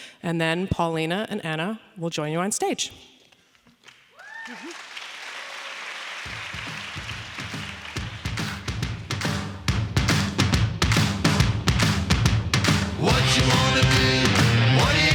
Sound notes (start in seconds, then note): 3.8 audience applauding; 4.1 audience cheering; 7.2 upbeat music